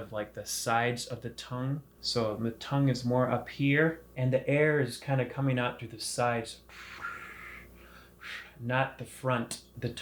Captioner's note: blowing air